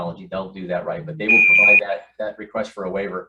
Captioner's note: loud beep